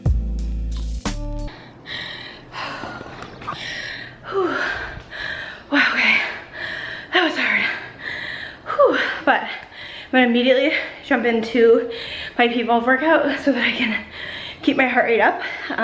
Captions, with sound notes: (breathes deeply) Hoo! Wow, okay (breathes deeply) That was hard! Hoo! But, I'm gonna immediately jump in to my p.volve workout so that I can keep my heart rate up,